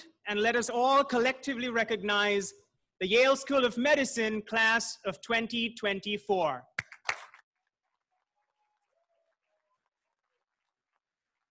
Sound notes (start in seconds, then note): 7.9 crowd applauding